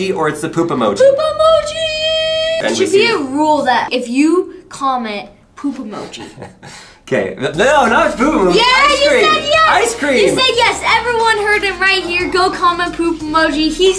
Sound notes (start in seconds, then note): 6.0 laughs